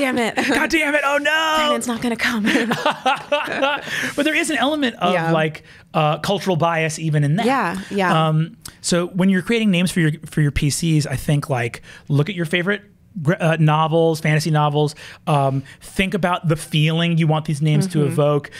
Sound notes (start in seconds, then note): 0.3 laughs; 2.4 both laugh